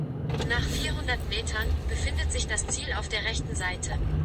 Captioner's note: navigator voice